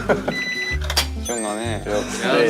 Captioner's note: beep beep beep beep